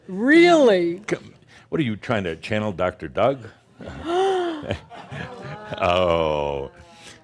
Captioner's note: gasps